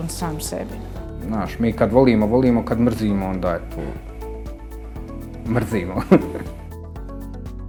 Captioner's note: laughter